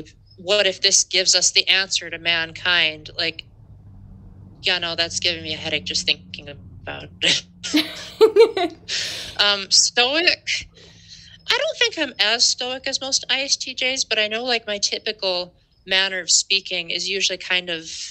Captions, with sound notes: "What if this gives us the answer to mankind?" Like... Yeah, no. That's giving me a headache just thinking about it. *laughter* Um, stoic... I don't think I'm as stoic as most ISTJs, but I know, like, my typical manner of speaking is usually kind of...